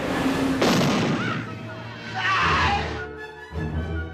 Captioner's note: gunshot; screams